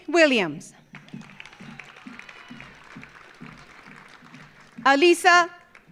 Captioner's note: audience applauding